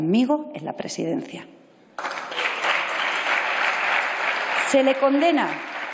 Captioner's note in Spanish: Aplausos